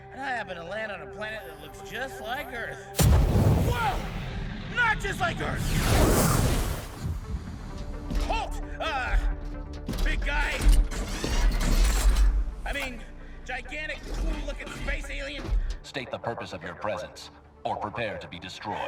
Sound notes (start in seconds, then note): 2.9 rocket firing